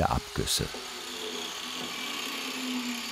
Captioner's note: rattling